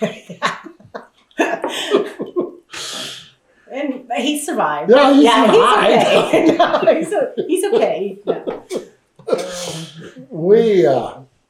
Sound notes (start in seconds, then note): 5.1 laughter